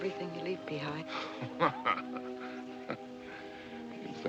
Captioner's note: angry Laugh